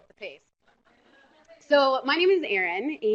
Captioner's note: laughter